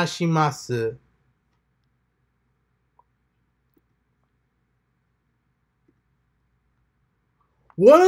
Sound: transitioning from japanese to english

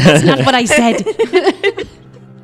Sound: laugh

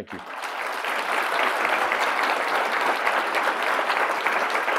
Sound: audience applauding

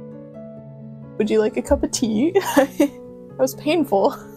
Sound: laughter

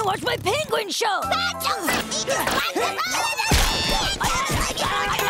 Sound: arguing; honking

